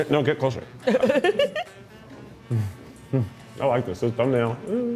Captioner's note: crew member chuckles